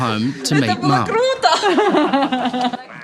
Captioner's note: laughs; speaks ukrainian